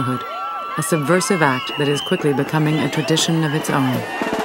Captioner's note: crowd cheering; marching drum music